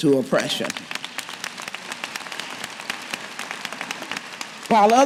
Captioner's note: cheers & applause